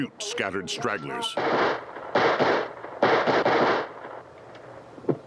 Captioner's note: indistinct chatter; gunshots